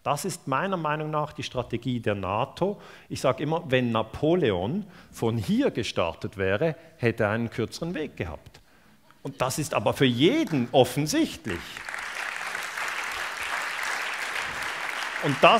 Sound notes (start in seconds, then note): 11.4 applause